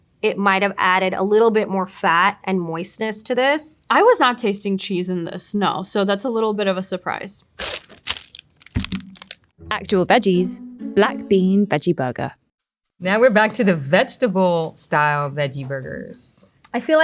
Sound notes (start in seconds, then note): 7.5 plastic rustling; 7.6 patty thudding